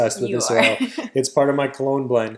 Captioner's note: laughs